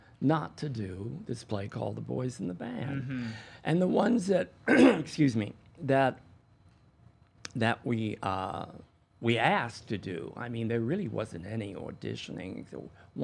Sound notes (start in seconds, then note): 4.6 coughs